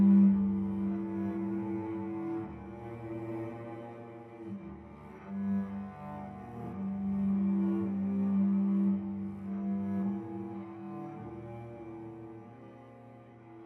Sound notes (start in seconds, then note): none